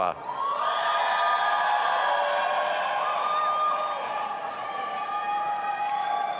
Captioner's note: audience applauding and cheering